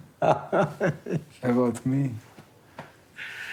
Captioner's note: laughing